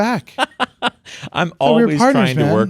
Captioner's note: laughing